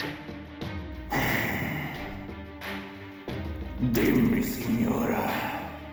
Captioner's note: deep sighs